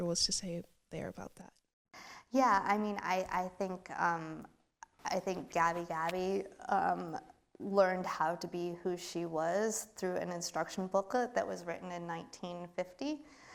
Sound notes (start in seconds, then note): none